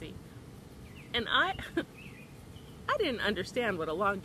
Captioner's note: chuckles